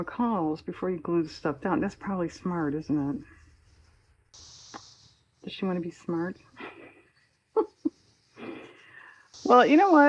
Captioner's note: laughs